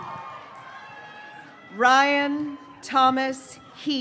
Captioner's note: graduates cheering